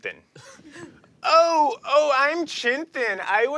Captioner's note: mocking Chintan